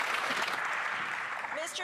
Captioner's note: applause